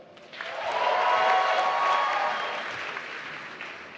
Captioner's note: applause